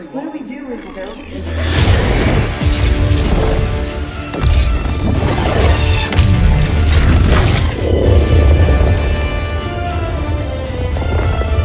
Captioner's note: space laser Noises